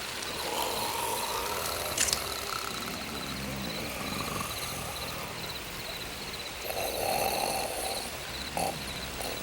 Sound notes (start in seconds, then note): 0.4 Bruto snores; 1.9 knife flicks; 6.6 Bruto snores